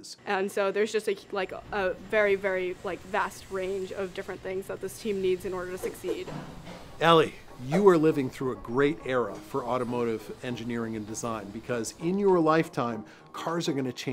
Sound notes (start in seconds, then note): 6.5 whoosh